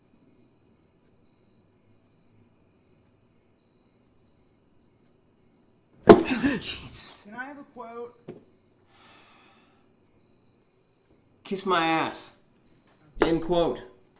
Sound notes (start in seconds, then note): 6.0 hand slapping; 6.2 gasping